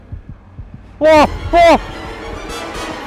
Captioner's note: screaming